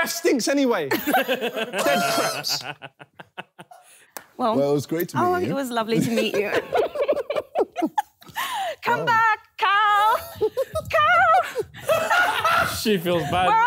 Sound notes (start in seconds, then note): 1.0 laughing; 7.5 laughing